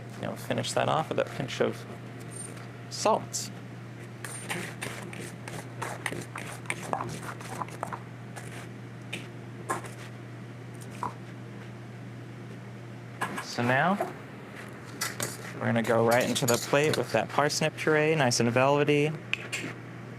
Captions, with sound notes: You know finish that off with a pinch of salt. [sound of metal spoon stirring ingredients in bowl] So, now... We're gonna go right into the plate with that parsnip purée. Nice and velvety.